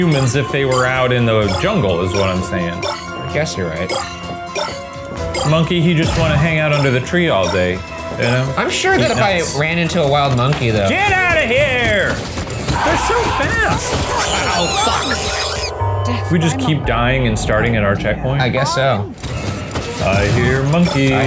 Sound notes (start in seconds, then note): 11.8 feet thumping; 12.6 Murder Monkey screeching